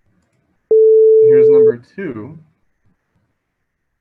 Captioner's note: sine wave beeping